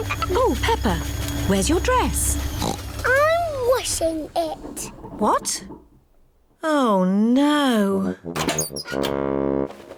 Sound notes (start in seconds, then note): 2.5 oinks